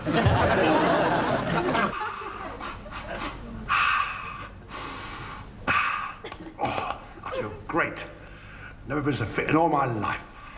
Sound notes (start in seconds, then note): 0.0 audience laughs; 3.6 exhaling